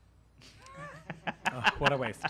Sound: laughing

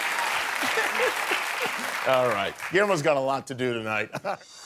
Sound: cheers and applause

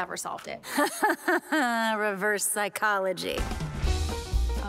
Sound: laughs

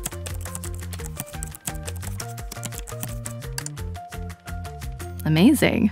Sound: keyboard clicking; gentle music

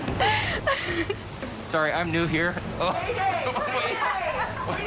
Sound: laughter

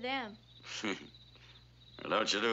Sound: chuckles

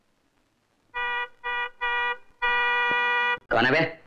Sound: horn Honking

